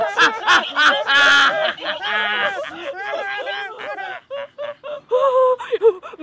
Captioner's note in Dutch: lachende hyena's; gemene lach